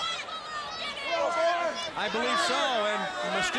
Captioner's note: crowd cheering